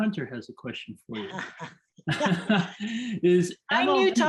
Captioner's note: laughter